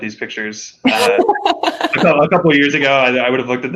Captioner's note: laughing